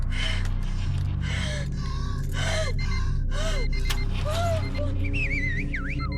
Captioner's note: ominous music; Jill breathing raggedly; car beeping; Mike whistles